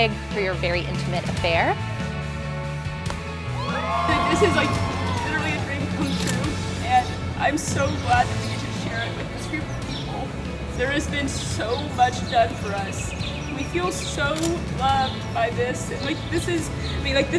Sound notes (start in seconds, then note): 3.5 group cheering